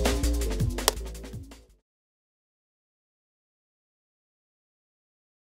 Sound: clapperboard clicking loudly

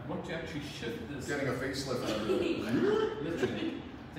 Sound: both chuckling

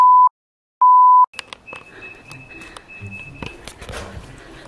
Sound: home entrance door password sound

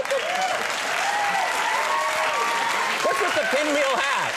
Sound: audience claps

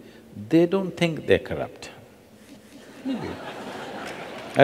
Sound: laughter

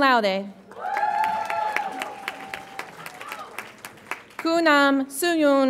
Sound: audience applauds and cheers

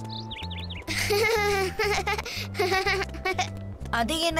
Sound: laughing

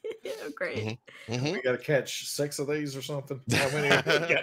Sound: laughing; laughs

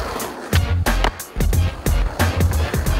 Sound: skateboards rolling

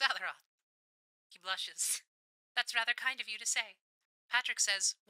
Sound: radio Filter

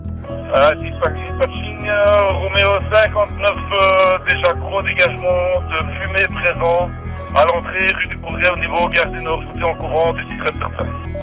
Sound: music and radio messages; radio messages

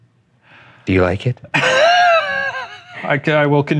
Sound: wheezing

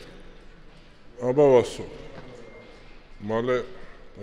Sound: speaking on GEORGIAN

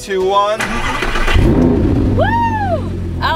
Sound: engine roaring

